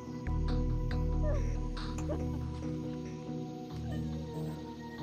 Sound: sobbing

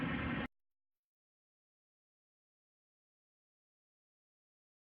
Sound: silence

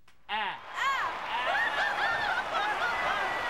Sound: both laughing; audience cheering, applauding and whistling

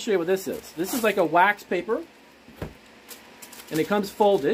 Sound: wax paper scraping

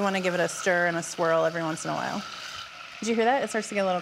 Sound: butter sizzling grows softer

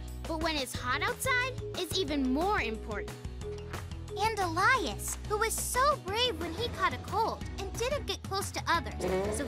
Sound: none

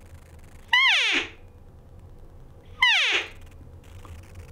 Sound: cow call honks

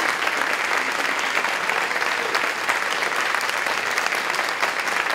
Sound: applause, cheering

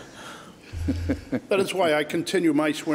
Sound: laughs

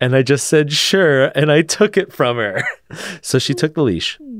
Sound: laughs

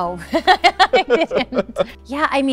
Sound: Lea laughs

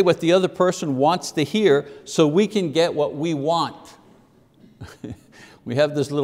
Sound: chuckles

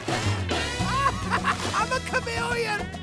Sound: laughing

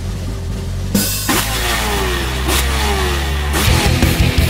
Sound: drum roll; motorcycle revving; badass rock music

